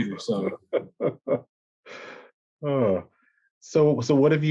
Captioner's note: laughter